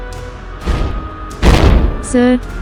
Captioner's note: boom